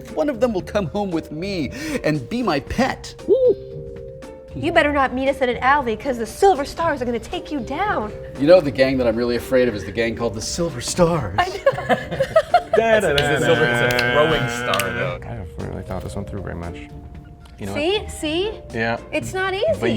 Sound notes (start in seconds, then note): 11.4 laughs; 13.2 humming